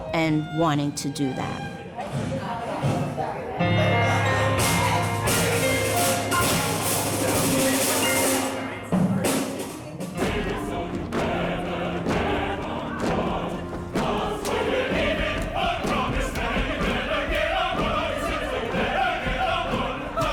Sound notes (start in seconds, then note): 2.2 performers chattering; 3.6 upbeat music